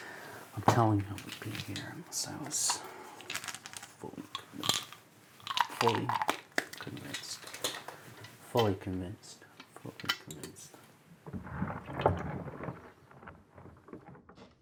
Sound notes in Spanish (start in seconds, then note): 3.1 pastillas sonando; 5.3 medicina crujiendo